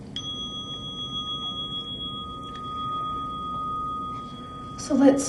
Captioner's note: timer dings